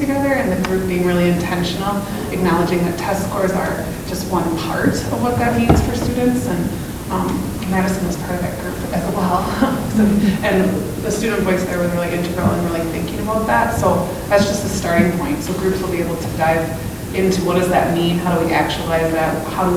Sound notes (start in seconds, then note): 9.4 laughs